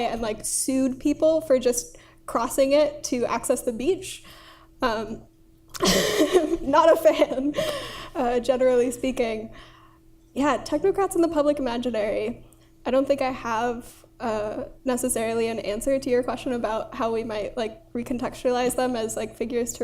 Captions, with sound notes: and sued people for just crossing it to access the beach. (laughs) Not a fan, generally speaking. Yeah, technocrats in the public imaginary, I don't think I have necessarily an answer to your question about how we might re-contextualize them as figures